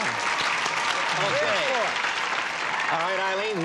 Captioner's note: applause